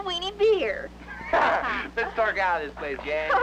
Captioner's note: laughs